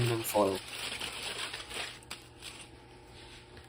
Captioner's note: aluminum foil sounds